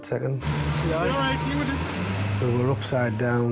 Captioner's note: engine revving